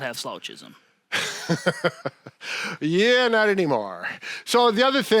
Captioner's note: laughs